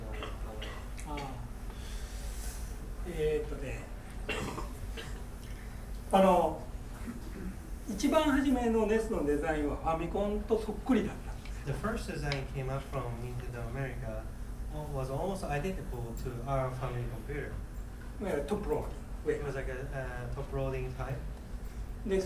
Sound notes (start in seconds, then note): 0.0 coughing; 3.2 speaking in foreign language; 4.2 coughing; 6.1 speaking in foreign language; 18.3 speaking in foreign language